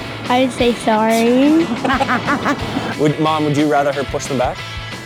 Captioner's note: laughs